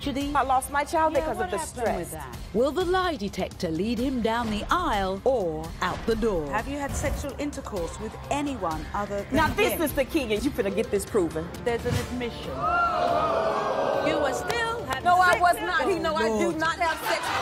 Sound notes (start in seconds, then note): 13.1 audience gasping